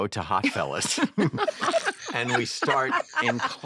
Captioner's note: all laugh